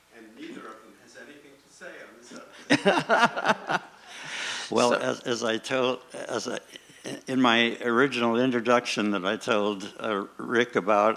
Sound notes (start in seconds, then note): 0.0 voiceover; 2.6 laughing